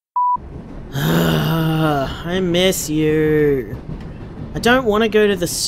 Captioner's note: groans